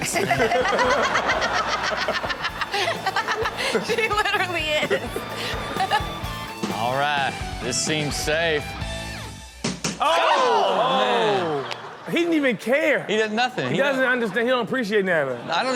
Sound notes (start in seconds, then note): 0.0 everyone laughs; 5.7 laughs; 9.5 bat and ball slam; 10.4 everyone groans